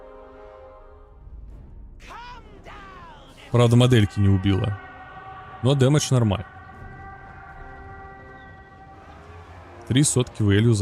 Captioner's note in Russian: крик